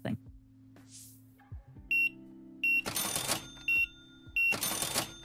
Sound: beeping

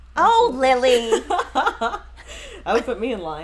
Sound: laughs loudly

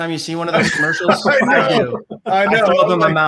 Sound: laugh

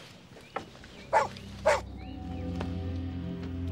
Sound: dog barks

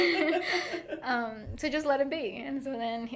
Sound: both laughing

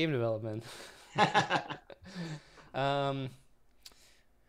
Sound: laughs

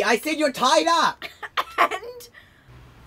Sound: coughing

